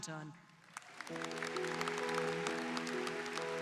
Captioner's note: applause